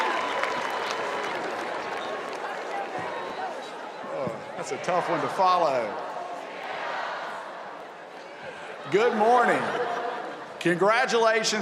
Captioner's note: cheers and applause